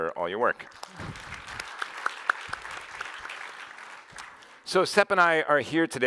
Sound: applause

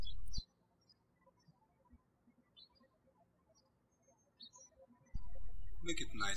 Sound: birds chirping

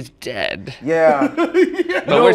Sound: laughter

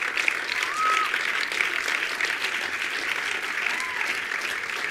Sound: attendees applauding

